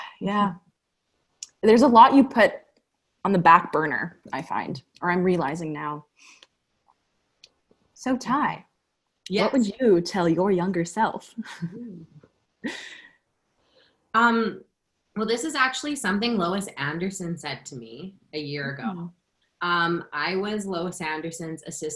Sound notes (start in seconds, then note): 12.6 laughter